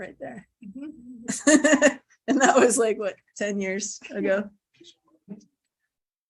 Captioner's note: chuckling